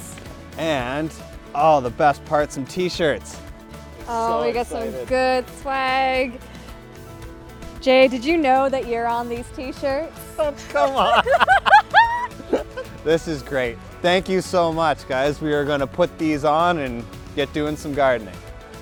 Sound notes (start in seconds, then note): 10.9 laughing